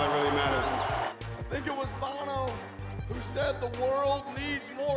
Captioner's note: cheering and Applause